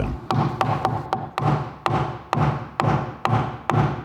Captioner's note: frequent short hammer blows